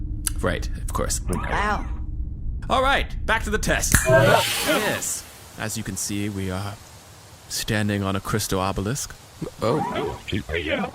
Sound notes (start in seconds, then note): 4.8 snaps fingers